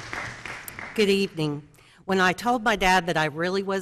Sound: applause

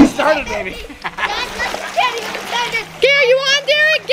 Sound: shouting

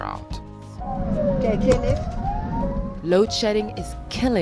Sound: ambulance sirens

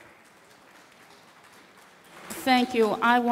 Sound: audience clapping

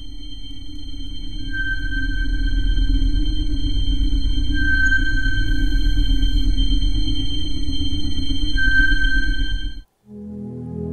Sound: sonar pinging

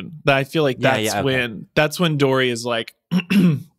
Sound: clears throat

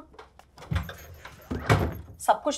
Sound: cupboard closing

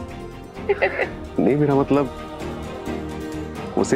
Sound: laughing

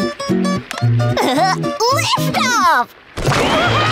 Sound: chuckles

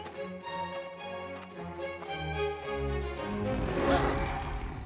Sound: roaring

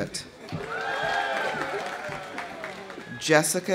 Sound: audience applauding; audience cheering

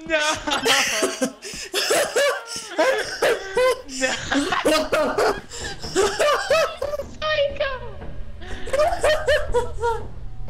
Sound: more dying of laughter

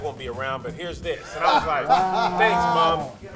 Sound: group laughs

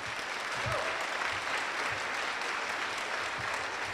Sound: applause

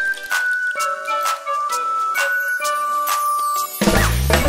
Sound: rain tinkling; playful whistling

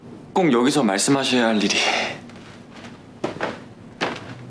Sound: speaking Korean

